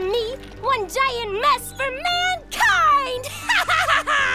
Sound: laughs

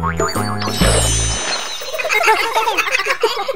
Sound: water sploshing; water splashes; animals giggling

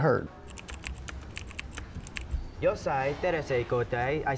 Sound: typing on computer

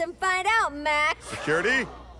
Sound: crowd gasps

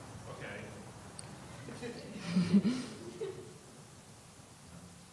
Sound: chuckling

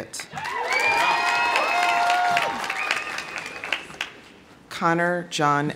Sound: audience applauding; audience cheering

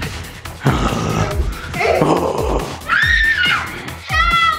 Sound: zombie growling

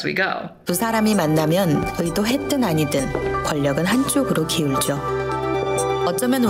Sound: speaking Korean

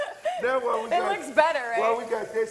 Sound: laughs

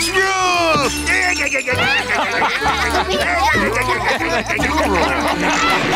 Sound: laughing

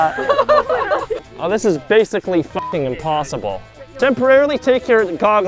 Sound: beep sound

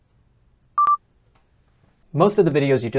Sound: beeping

